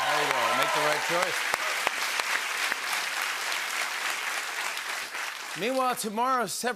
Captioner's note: applause